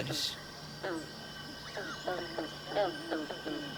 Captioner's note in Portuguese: Pássaros cantam